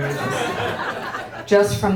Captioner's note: audience laughing